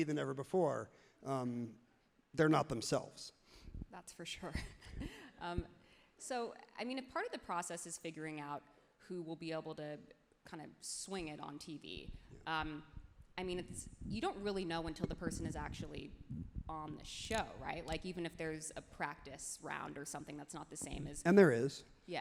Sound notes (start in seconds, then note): 5.0 laughs happily